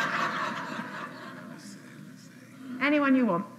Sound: laughter

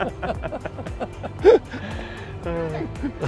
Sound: laughs

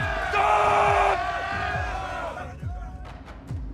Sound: shouting

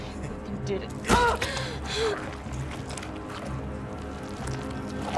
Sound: grunting

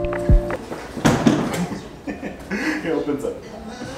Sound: couch thudding; laughing

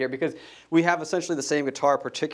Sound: none

